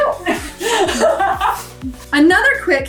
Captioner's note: laughs